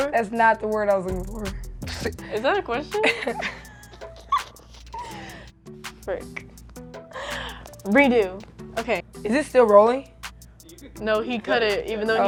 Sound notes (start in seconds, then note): 2.9 laughing